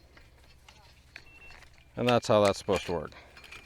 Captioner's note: machine beeps